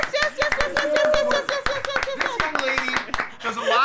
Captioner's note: clapping